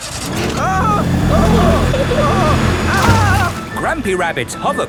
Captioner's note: grandpa screaming